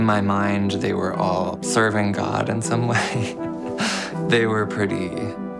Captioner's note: laughing